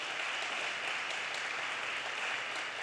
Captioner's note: audience applause